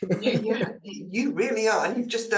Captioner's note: laughs